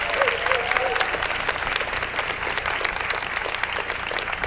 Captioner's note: audience applauds